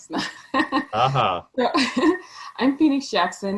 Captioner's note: laughing